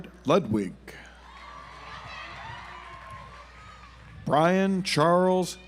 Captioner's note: audience applauds